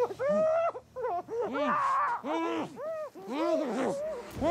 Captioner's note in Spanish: gritos reprimidos